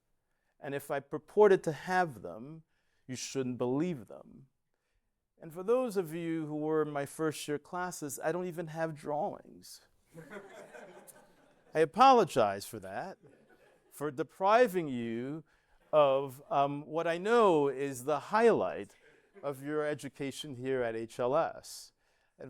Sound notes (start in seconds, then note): 10.1 laughter